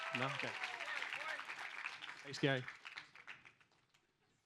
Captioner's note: audience applauds